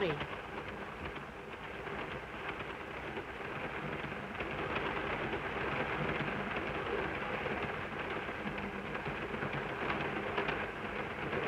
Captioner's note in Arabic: صوت خشخشة القطار